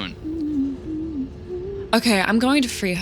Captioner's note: Luna humming